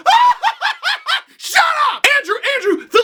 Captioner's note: laughs maniacally; shouting